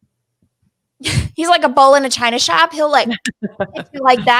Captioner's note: chuckles; laughing